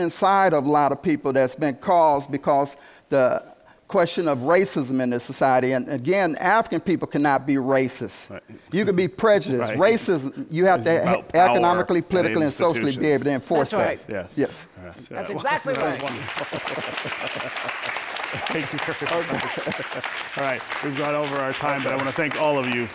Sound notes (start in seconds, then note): 9.7 laughs; 15.6 applause; 18.2 laughs